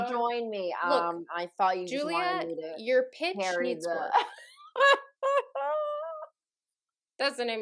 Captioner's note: laughter